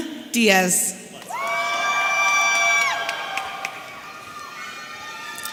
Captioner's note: audience cheering